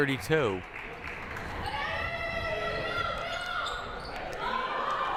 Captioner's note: player shouting